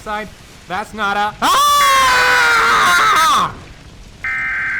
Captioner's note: mix of screaming and SAME header